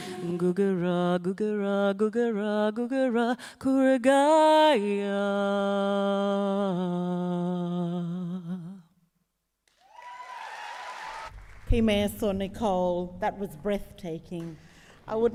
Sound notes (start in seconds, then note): 0.2 sings in native language; 9.7 audience applauds and cheers